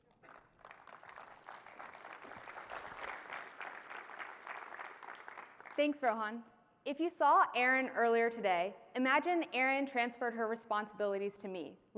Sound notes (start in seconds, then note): 6.4 applause